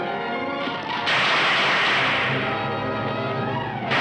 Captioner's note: gunshots